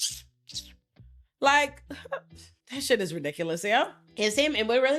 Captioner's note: sucking